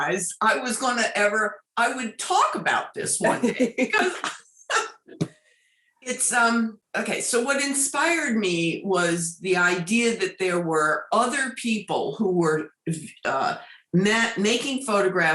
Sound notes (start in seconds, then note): 3.3 laughing